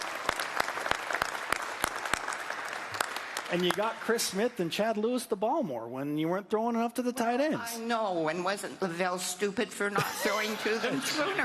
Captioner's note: applause